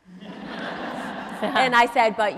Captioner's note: audience laughs